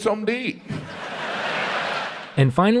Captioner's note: laughter